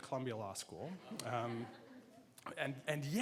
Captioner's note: laughing